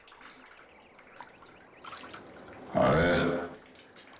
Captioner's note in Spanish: Sonido del agua